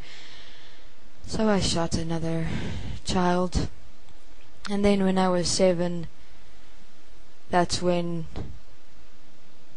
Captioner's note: sigh